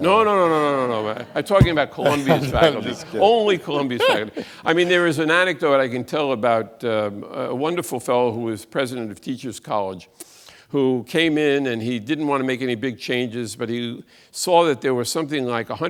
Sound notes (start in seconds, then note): 0.1 audience laughs; 2.9 laughs